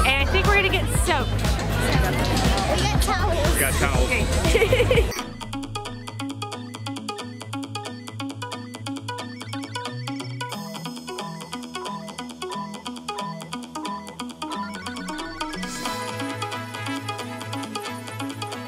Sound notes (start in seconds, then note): 4.2 laughing; 6.3 upbeat electronic music